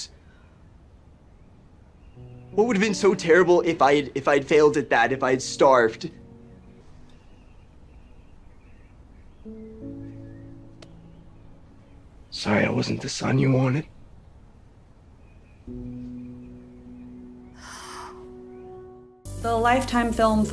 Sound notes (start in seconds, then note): 0.2 silence; 6.8 silence; 9.4 dramatic, soft music; 17.5 pained sigh; 18.4 dramatic, soft music